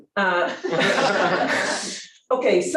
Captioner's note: laughter